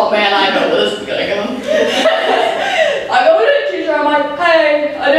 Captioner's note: laughs